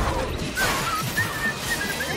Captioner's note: objects clatter; whistling